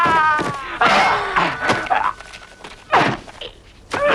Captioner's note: man shouting; both grunting